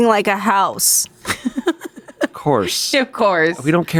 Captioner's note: laughs